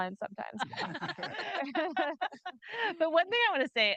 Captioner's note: group laughing